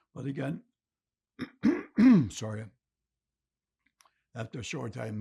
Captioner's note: clears throat